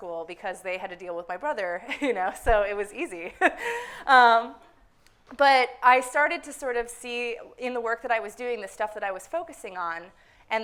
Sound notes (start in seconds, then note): 3.4 chuckle; 3.5 laugh; 4.1 some laughter from the audience